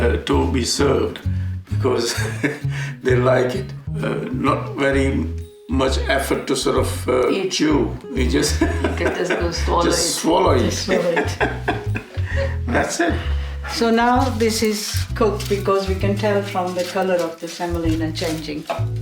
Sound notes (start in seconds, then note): 2.0 laughs; 8.4 man chuckling